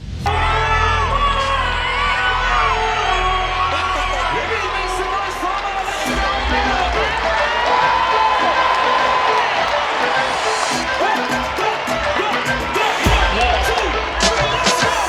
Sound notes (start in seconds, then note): 0.5 crowd cheering; 11.8 Latin music begins